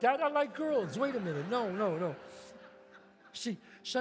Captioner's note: audience laughs